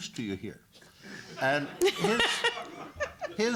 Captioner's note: laughter